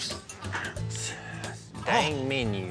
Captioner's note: sighs